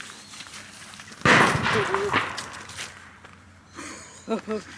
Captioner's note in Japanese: 鳥よけの銃で撃ったような音